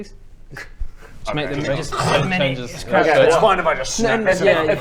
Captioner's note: crrrrunch